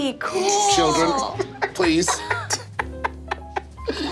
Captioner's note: laughing